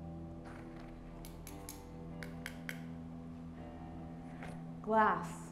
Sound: tapping glass

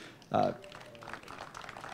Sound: applause

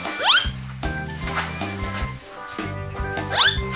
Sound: plastic crackling; box whistles

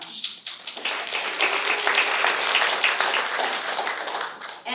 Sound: applause

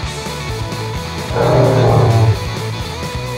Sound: dinosaur roar; upbeat rock music

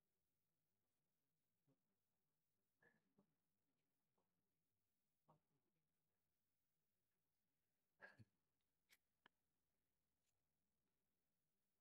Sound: silence

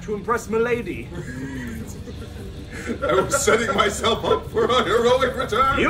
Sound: laugh

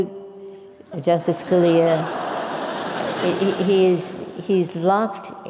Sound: laugh

